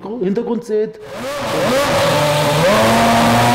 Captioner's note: engine noise